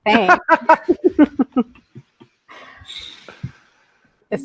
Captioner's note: laughter